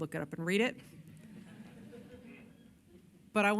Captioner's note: laughter